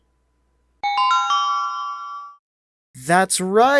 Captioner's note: ding!